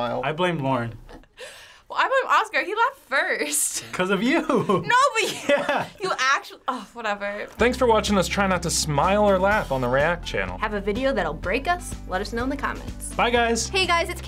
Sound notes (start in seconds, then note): 5.1 chuckles